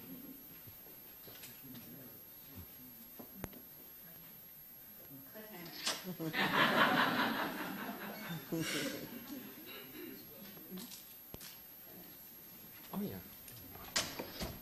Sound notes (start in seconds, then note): 6.3 audience laughing